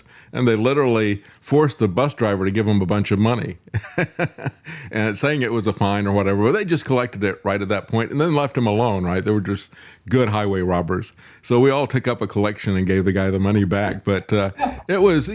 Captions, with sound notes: and they literally force the bus driver to give them a bunch of money. (Laughing) And saying it was a fine or whatever, they just collected it right at that point and then left them alone, right? They were just good highway robbers. So we all took up a collection and gave the guy the money back, but that's